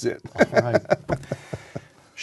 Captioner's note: laughter